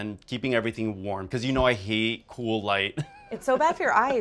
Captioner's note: laughs